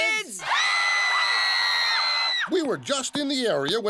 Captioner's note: screaming